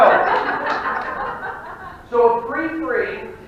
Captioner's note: audience laughing